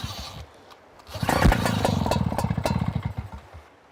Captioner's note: sound of pump